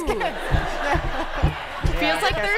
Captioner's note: laughter